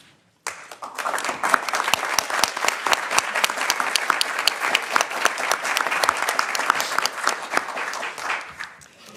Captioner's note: applause